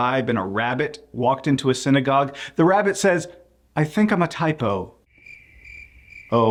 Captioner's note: chirp chirp